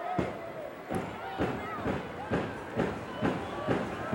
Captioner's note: foot stomping